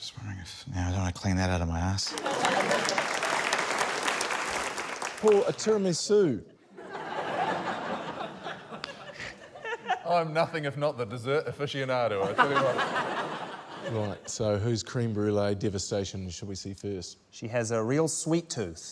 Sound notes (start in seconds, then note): 2.0 laughter, applause; 6.7 laughter; 12.2 laughter